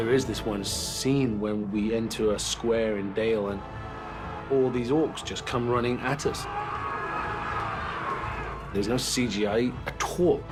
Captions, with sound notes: There is this one scene where we enter a square in Dale. And all these Ores just come running at us. [ALL SHOUTING] There's no CGI at all.